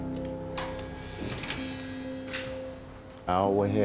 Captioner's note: door buzzes